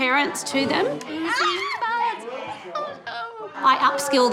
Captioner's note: squeals